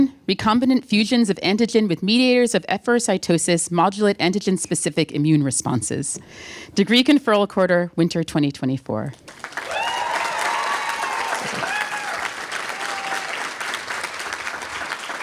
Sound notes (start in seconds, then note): 9.2 applause, cheering